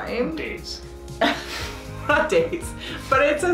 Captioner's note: chuckles